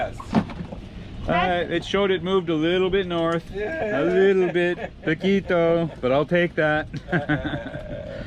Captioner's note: laughing